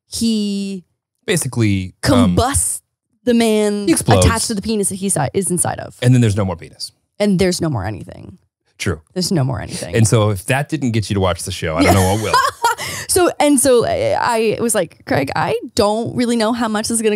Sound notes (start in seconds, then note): 11.8 laughing